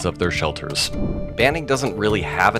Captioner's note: air whooshes